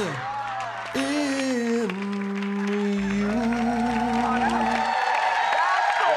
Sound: applause

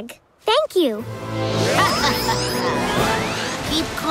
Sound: laughing

